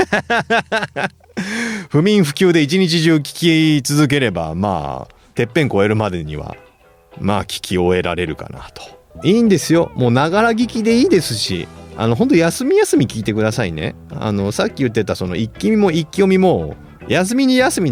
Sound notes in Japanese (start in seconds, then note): 0.0 笑い; 1.3 息をのむ音